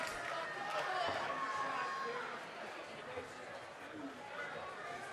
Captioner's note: audience cheering